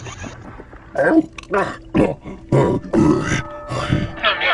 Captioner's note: swallows n Exhales